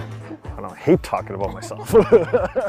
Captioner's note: laughter